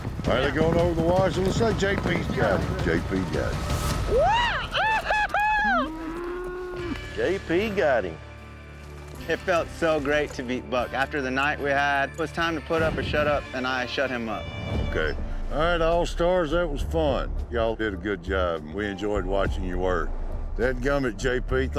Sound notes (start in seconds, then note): 4.1 yipping